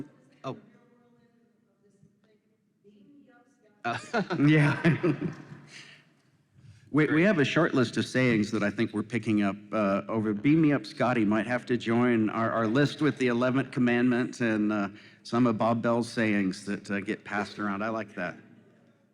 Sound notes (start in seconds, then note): 3.8 laughs